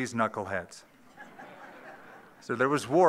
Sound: laughter

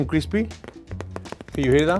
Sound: fingers tapping tortilla

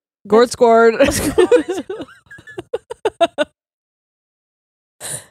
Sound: both giggle

